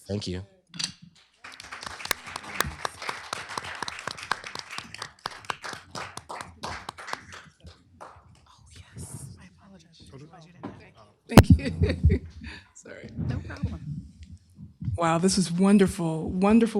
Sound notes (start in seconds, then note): 1.2 applause